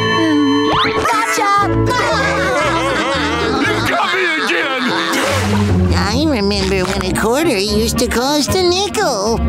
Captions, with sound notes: Gotcha! [laughing] You got me again. I remember when a quarter used to cost a nickel.